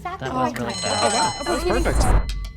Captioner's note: alarm rings